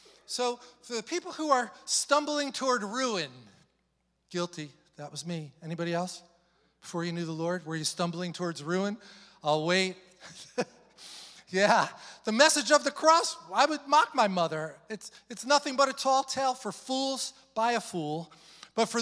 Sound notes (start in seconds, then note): 10.2 chuckles